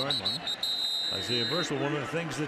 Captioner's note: whistle blows